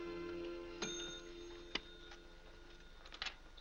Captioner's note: bell rings